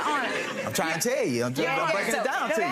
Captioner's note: crowd laughing